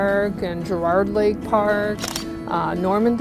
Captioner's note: cameral clicking